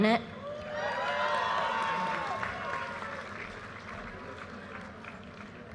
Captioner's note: audience cheers and applause